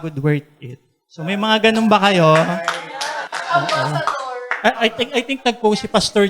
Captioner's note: clapping